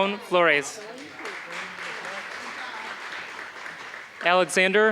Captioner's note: applause